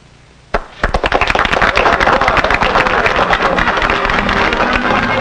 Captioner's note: clapping